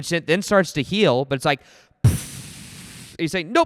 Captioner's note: blows into mic